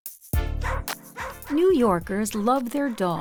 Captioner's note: music and barking